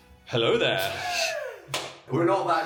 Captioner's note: Dan laughs